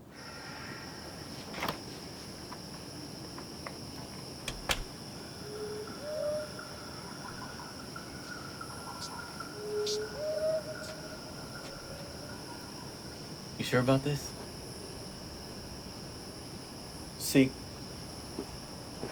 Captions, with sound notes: (crickets chirping) (owl hooting) You sure about this?